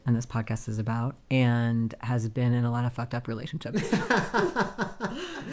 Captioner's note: laughing